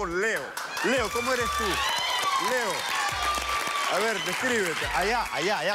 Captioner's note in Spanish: Gritos y exclamaciones